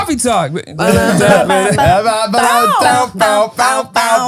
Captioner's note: all laughing